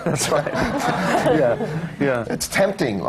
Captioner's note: laughter